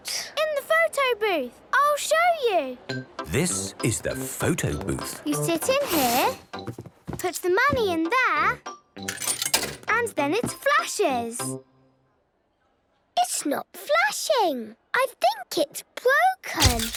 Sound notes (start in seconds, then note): 9.1 coin tumbling; 16.6 camera clicks